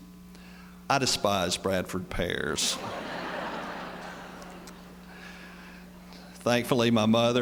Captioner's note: laughter